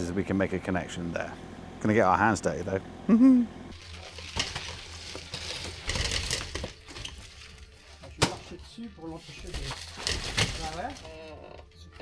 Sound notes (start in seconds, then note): 3.0 chuckles; 3.9 machinery whirring; 8.6 machinery whirring